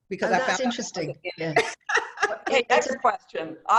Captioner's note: laughter